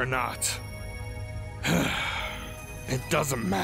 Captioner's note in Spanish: Exhala